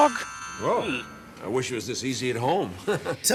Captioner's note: "magic" noise